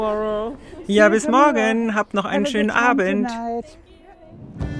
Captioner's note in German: englisch